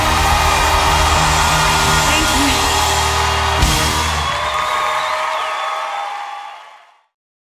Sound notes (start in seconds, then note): 0.0 crowd Applauds; 3.1 crowd Cheers